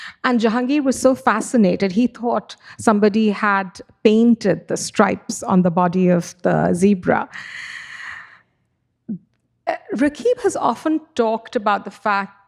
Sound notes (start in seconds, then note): none